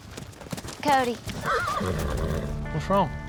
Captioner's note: horse whinnies